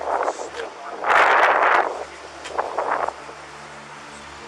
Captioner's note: wind rustling